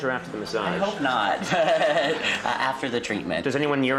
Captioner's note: laughs